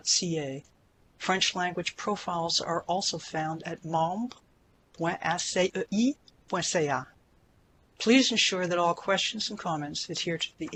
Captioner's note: French